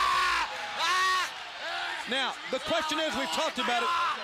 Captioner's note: crowd chatter